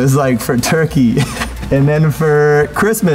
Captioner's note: laughs